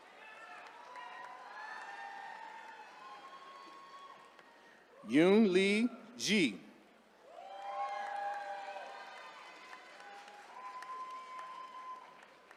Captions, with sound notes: (attendees cheering) Yunliang Ji. (attendees cheering)